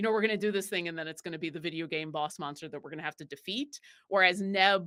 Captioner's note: none